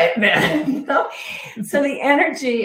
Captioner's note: all laughing